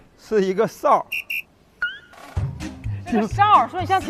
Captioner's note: ultra-abstract whistle